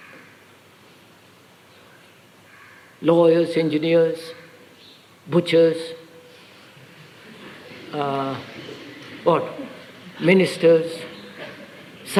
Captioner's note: laughter